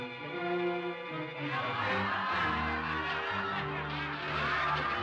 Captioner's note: audience laughs